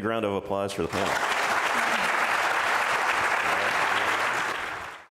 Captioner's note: audience clapping